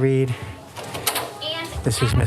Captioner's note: door opens